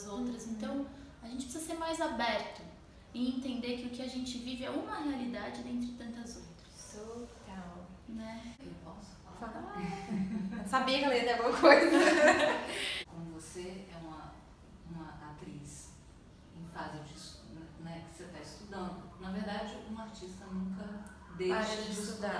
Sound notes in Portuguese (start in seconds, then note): 9.8 risos